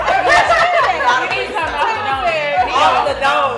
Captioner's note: laughing